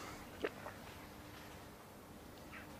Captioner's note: gulps